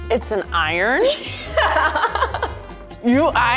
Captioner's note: laughs